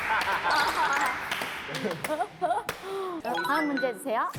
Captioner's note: laughing